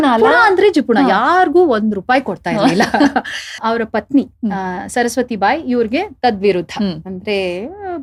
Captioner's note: chuckles